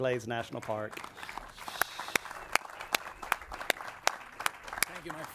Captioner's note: audience and clap